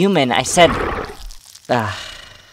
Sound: Azazel growls

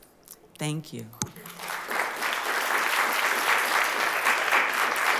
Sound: applause

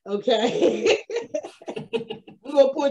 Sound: both laughs

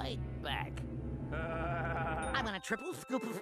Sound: laughing fiendishly

